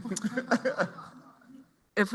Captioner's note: laughter